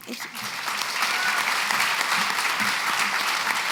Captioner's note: applause